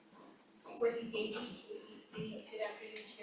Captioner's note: faintly speaking